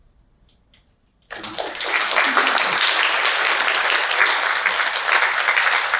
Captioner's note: audience applauding